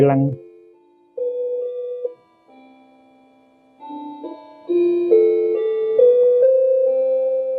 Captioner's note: clock chiming